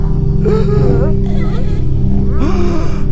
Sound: monsters gasp

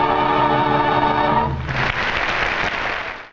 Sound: audience applauds

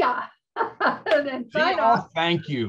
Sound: laughs

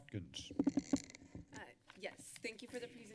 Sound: mic squeaks

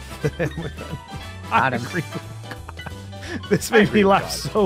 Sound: laughs

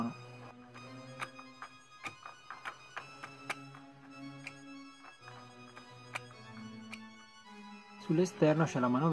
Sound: squeaking noise

